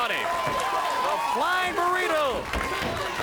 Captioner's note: crowd cheering